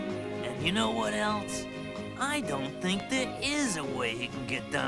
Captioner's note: none